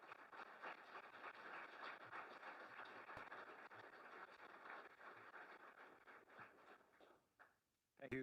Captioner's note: applause